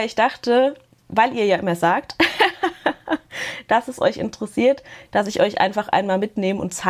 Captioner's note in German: gelächter